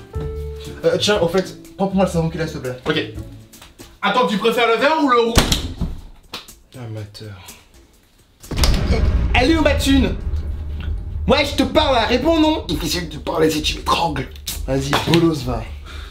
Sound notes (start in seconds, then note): 5.4 door closing; 12.6 in a low voice